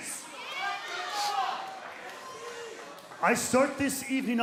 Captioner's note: crowd cheering